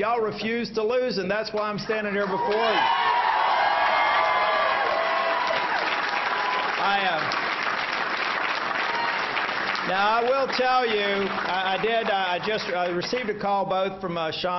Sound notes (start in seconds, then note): 9.6 applause